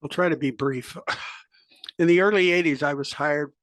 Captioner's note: cough